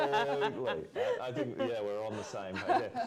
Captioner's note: laughter